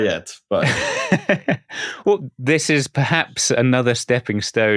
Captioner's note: laughter